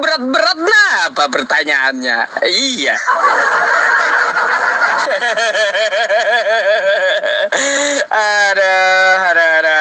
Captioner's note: laughs